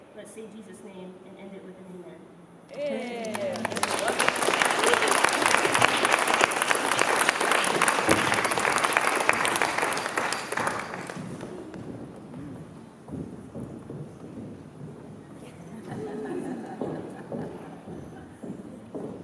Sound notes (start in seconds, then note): 3.6 applause